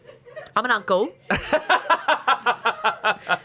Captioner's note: laughs